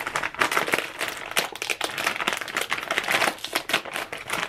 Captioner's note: bag crunching